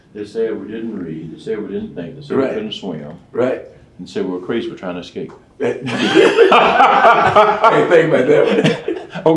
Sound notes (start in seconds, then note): 5.8 laughing